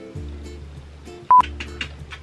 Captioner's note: beep